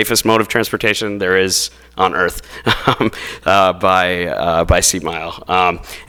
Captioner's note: laughs